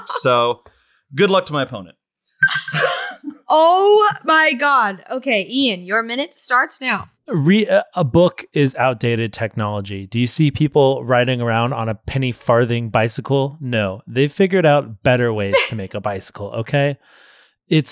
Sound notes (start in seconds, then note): 2.4 timer rings